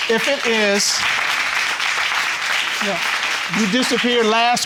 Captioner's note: audience applauding